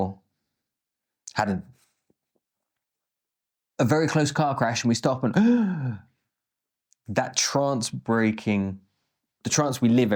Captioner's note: gasps